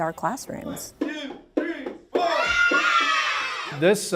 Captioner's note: screaming